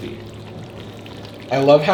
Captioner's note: food sloshing